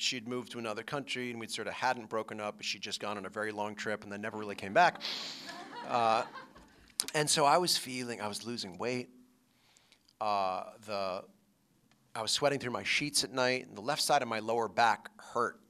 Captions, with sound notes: AND SHE HAD MOVED TO ANOTHER COUNTRY AND WE SORT OF HADN'T BROKEN UP BUT SHE'D JUST GONE ON A VERY LONG TRIP AND THEN NEVER REALLY CAME BACK [LAUGHTER]. AND SO I WAS FEELING -- I WAS LOSING WEIGHT. THE -- I WAS SWEATING THROUGH MY SHEETS AT NIGHT.